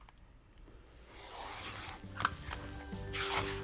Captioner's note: rotary cutter slicing; cheerful music